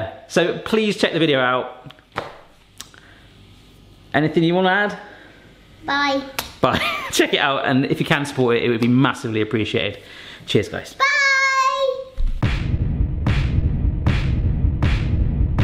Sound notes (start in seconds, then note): 7.3 chuckles; 12.3 dramatic music